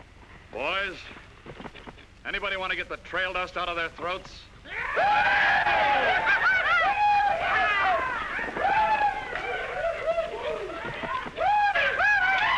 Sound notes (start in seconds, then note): 4.6 men cheering; 7.5 men whooping & hollering; 11.6 men yelling & sounds of chaos